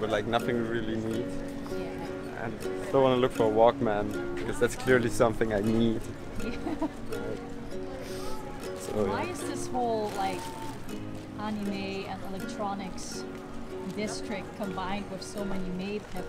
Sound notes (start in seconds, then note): 14.8 laughs